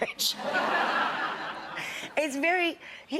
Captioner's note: audience laughs